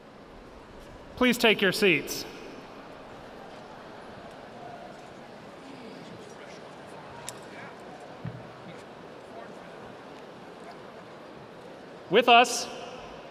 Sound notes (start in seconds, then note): 7.1 audience talking